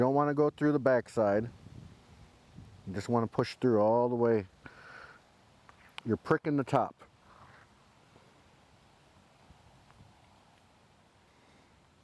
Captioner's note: silence